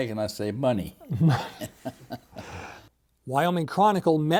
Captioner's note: chuckling